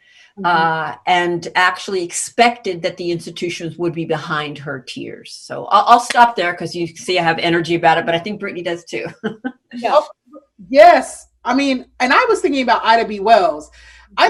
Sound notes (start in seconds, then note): 9.1 chuckles